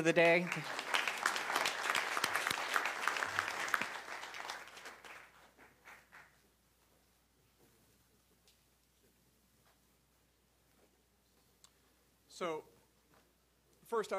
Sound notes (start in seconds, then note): 3.3 applause